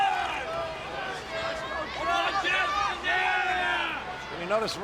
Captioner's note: audience cheering